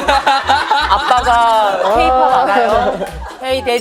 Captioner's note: hahaha